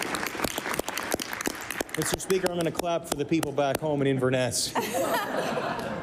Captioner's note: applause